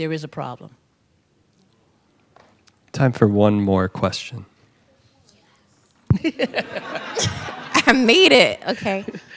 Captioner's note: laughter